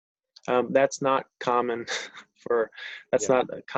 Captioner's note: chuckles